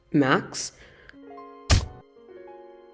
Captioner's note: kicking noise